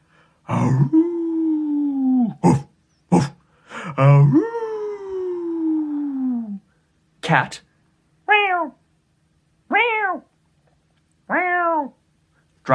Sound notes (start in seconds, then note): 0.9 howling, barking; 8.6 meowing